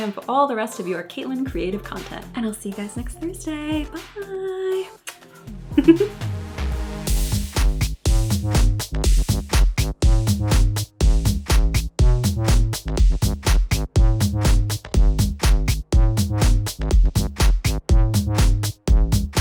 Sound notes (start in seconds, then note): 5.0 kiss; 5.8 laughs; 7.1 dance music